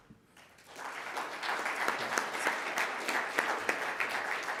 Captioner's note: audience applauding